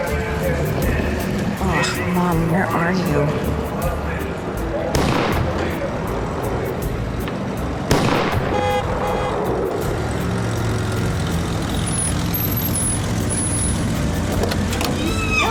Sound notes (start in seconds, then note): 5.0 car backfires; 7.8 car backfires; 8.4 horn honking; 11.1 brakes squeal, car door opens; 15.0 ellie squealing